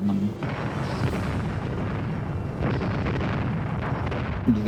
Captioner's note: explosions